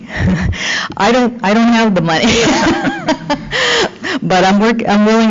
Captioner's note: laughing